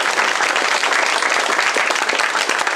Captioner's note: applause